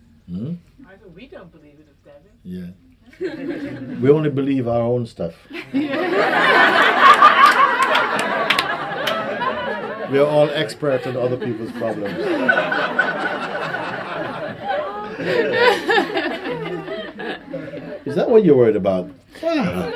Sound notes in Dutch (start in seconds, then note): 8.0 gelach en applaus; 16.2 gelach